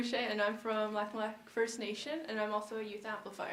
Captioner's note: voice is muffled